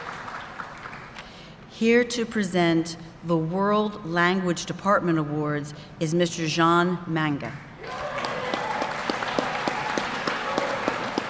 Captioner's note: applause